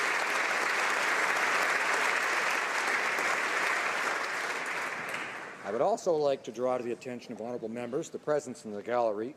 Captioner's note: applause